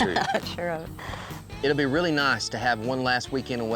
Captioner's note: laughing